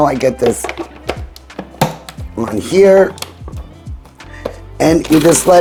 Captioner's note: processor lid clicking